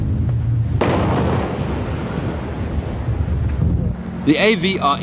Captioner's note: artillery explode